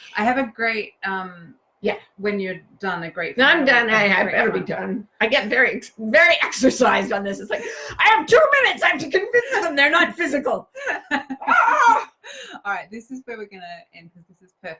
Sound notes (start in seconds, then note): 10.8 laughs; 11.3 shrieks